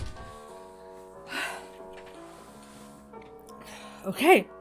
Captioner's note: door clicks shut; Hana sighs